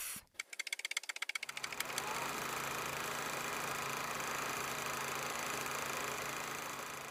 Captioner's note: typewriter keys clacking; projector whirring